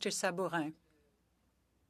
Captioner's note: speaking French